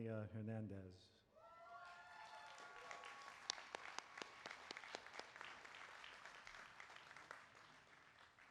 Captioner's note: applause